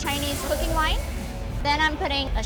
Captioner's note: liquid sizzles